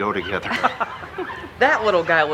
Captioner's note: Laura laughs